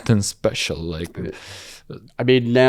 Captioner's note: laughs